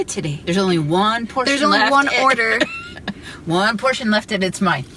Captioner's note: laughs